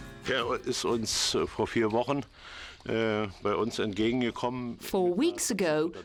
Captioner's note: speaks in foreign language